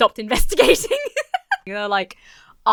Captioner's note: laughs